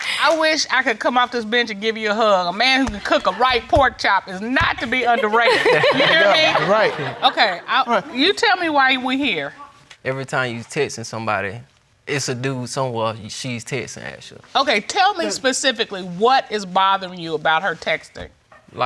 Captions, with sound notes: I wish I could come off this bench and give you a hug. A man who can cook a right pork chop is not to be underrated. (ALL LAUGHING) You tell me why we're here. Every time she's texting somebody, it's a dude she's texting actually. Tell me specifically, what is bothering you about her texting.